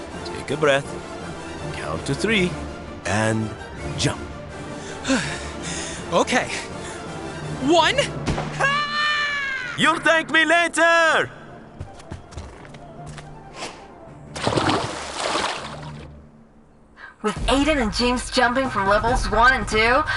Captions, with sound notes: Take a breath, count to three, and jump. [sighs] OK… One--! [screams] You'll thank me later! With Aiden and James jumping from levels 1 and 2,